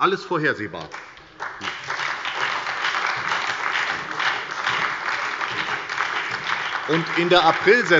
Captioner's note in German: Beifall bei der SPD und der FDP